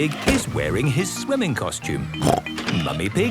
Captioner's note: snorts